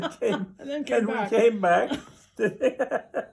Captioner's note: laughs